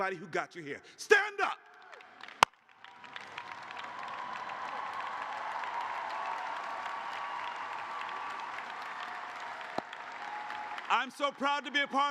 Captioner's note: cheers and applause